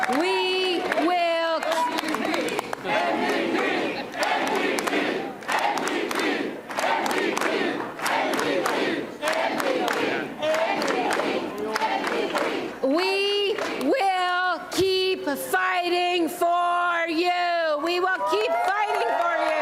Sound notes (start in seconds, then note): 0.0 applause and cheering; 5.2 Crowd chanting "N.D.P."; 12.5 rhythmic applause